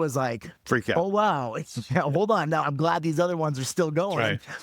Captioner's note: laughing